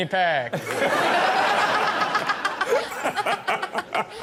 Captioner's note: everyone laughs